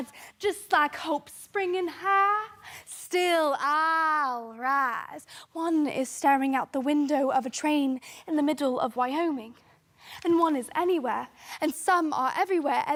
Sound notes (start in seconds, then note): 9.8 sharp breath